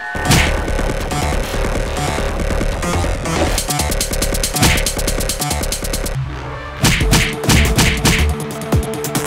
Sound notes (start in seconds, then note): 0.2 Boxing punch; 6.8 Boxing punches